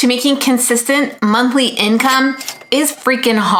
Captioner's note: cash register chimes